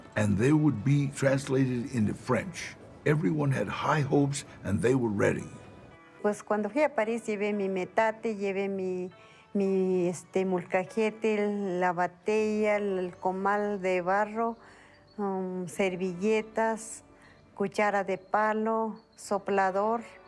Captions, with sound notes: and they would be translated into French. Everyone had high hopes, and they were ready. [in Spanish] When I went to Paris, I brought my metate and my molcajete, my wooden dough bowl, the clay griddle, napkins, a wooden spoon, a fan…